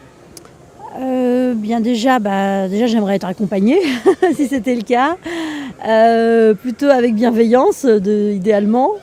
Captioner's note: laughing